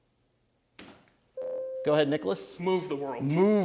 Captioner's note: ding